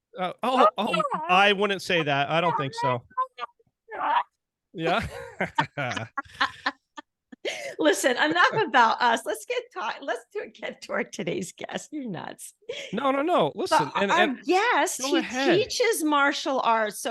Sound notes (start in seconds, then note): 3.7 talking funnily; 4.8 laughing happily